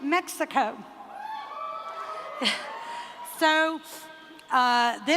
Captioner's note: cheering